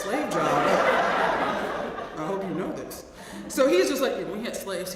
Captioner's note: laugh